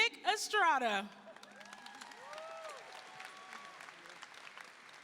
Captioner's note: audience applauding